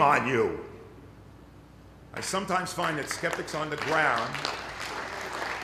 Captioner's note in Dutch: Applaus